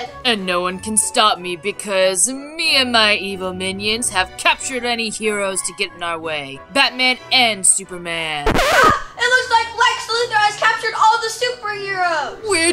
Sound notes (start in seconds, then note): 8.4 record scratching